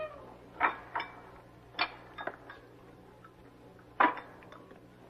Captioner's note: door squeaking; dishes rattling